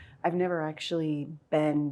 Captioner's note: none